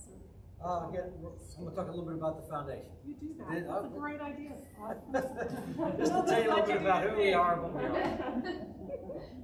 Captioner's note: audience--laughter